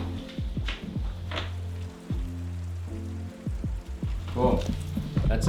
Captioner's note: rain falling heavily